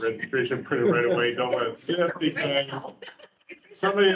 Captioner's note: members chattering